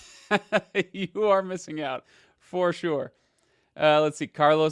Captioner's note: laughs